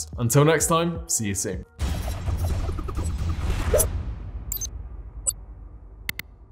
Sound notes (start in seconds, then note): 2.0 lively music; 3.8 metallic slash; 6.1 electronic clickings